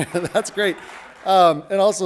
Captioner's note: audience applauding